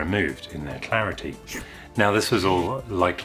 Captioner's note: slurp!